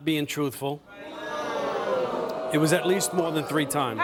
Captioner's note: booing